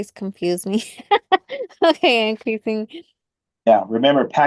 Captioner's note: laughs